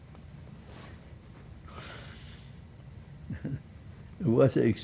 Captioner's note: laughing